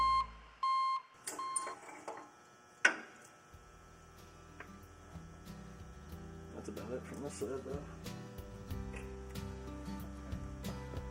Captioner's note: backup alarm sounding